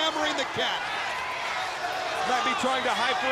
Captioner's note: crowd chatter